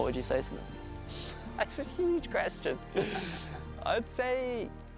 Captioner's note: laughing